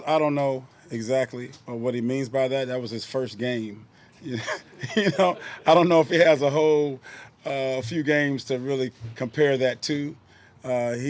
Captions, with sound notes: - I don't know exactly what he means by that. That was his first game. (laughing) You know, I don't know if it has a whole, a few games to really compare that to.